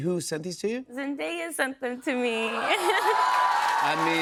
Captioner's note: cheers and applause